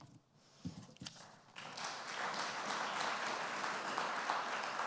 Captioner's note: applause